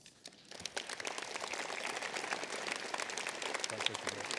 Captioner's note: applause